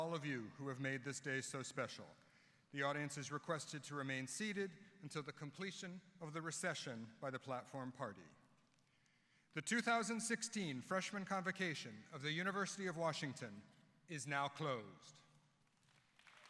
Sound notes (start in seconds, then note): 15.7 applause